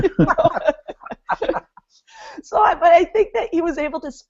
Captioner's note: laughing